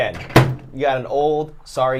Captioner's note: closes microwave